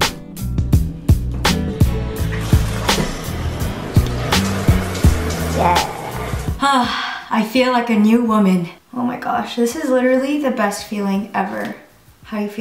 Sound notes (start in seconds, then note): 1.3 water running; 5.3 sighs